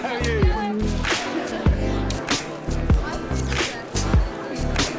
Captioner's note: group chatter